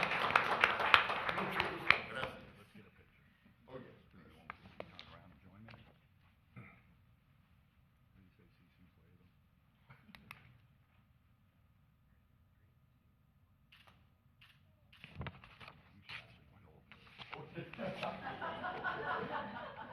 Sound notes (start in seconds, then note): 2.9 applause